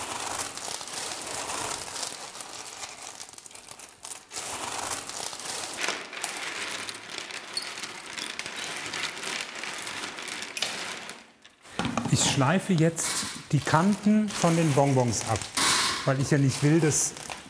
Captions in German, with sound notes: (Klappern) Ich schleife jetzt die Kanten von den Bonbons ab. Weil ich ja nicht will,